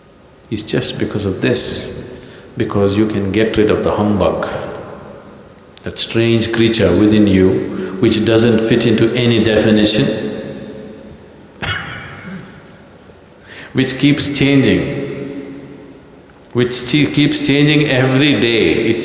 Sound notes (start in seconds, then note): 11.6 laughs